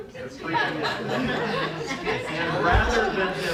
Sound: laughter

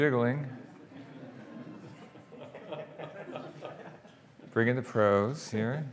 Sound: audience laughing

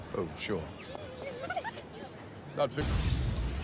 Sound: girls squeal in delight

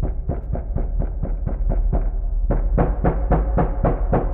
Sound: knocking on door

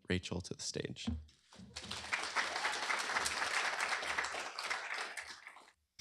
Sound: applause

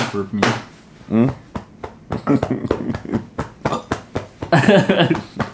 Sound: burps; both laugh

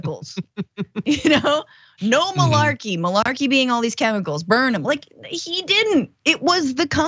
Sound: laugh

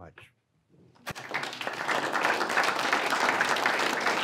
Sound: audience clapping

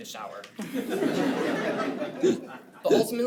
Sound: attendees laugh

